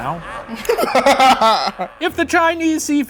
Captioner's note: laughing